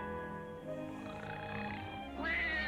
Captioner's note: man snoring; baby crying